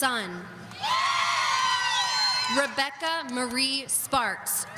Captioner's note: audience cheering